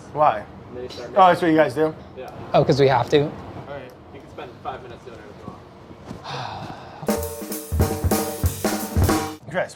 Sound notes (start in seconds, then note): 6.2 sighs; 7.0 upbeat percussive music